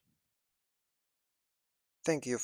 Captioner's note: pause